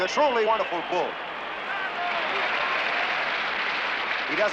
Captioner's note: shouts of "bravo"